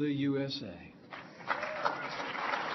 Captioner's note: applause